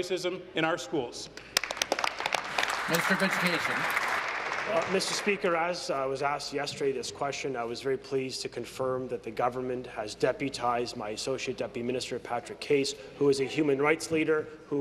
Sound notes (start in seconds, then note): 4.6 applause